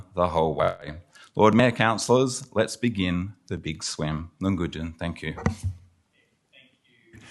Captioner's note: aboriginal word spoken